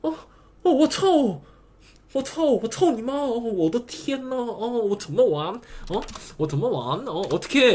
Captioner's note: speaking Chinese